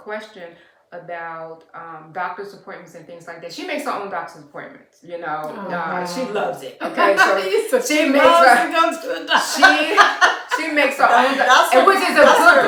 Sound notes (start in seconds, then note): 9.0 laughter